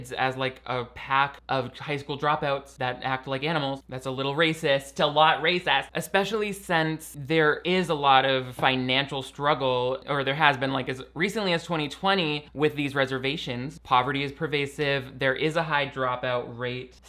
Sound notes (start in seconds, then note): none